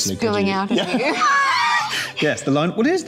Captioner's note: both laughing